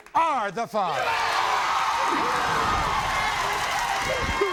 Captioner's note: audience erupts